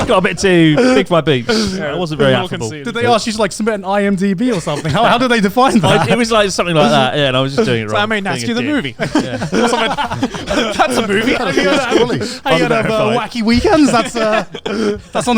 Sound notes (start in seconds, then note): 9.4 all laughing